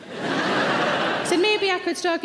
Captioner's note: audience laugh